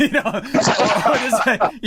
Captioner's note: laugh